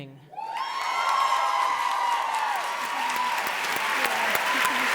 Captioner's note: audience applauds